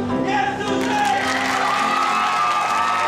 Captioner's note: cheering